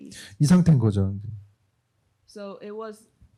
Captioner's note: speaking korean